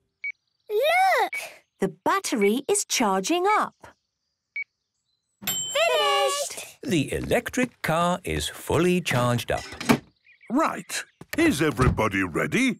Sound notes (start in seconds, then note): 0.3 meter beeping; 5.4 dings